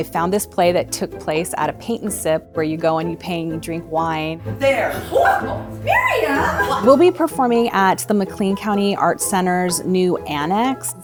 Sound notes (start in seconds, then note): 5.6 gasps